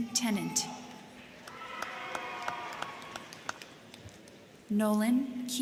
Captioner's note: crowd cheering; crowd clapping